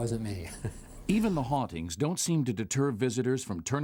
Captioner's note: voiceover